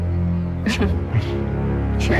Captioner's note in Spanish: Risas